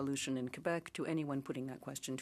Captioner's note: speaking French